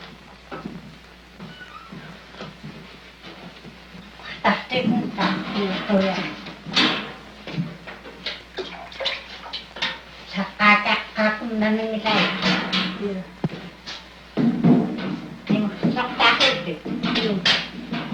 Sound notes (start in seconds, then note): 3.0 conversation in Yup'ik language